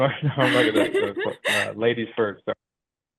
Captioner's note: laughs